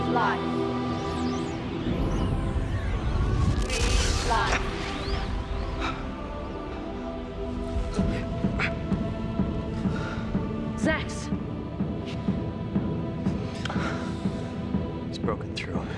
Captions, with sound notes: Breathe life. (William whimpers) - Xax! (drumbeats sound distantly) - He's broken through.